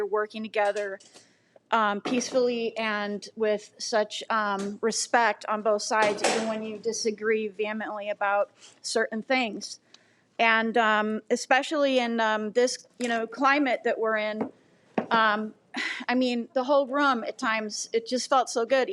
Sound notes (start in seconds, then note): none